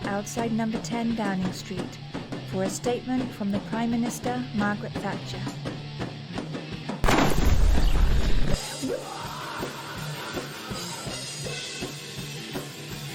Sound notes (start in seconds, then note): 7.0 explosion